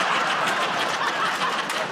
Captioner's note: laughter